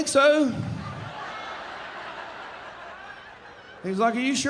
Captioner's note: audience laughing